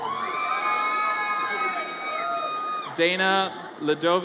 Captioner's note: audience cheers